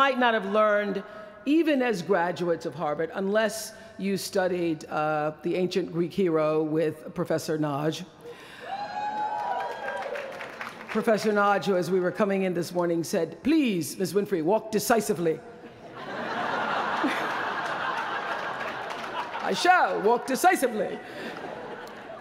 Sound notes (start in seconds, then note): 8.7 applause; 15.6 laughter